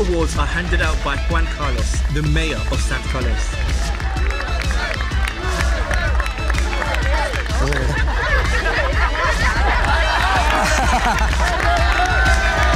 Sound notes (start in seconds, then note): 3.7 Crowd chants USA, USA; 9.2 laughing; 12.5 cheering